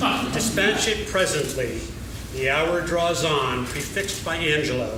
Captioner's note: laughing